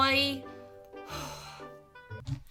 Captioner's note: deep breath